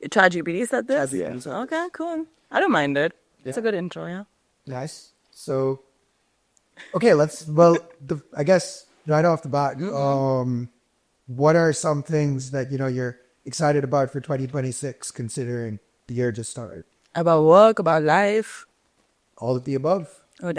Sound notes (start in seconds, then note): 7.6 chuckles